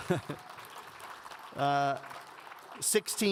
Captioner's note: giggles; audience applauds